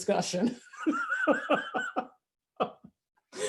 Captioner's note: laughs